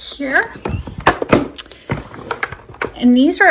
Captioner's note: drawer thudding